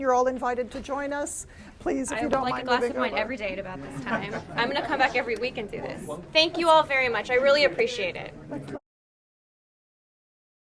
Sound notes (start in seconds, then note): 3.9 laughter